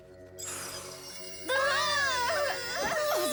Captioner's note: poof; screaming